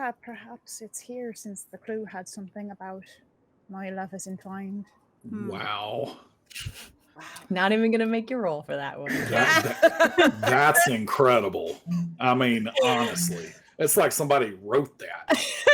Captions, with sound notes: - Perhaps it's here since the clue had something about "my love is entwined". - Wow. - Not even gonna make you role for that one. (laughing) - That's incredible. I mean, honestly. It's like somebody wrote that.